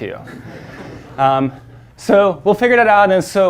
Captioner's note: audience laughing